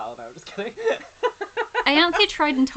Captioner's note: laughs